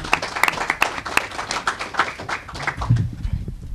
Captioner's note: applause